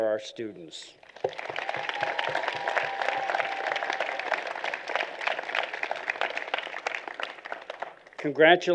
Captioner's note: applause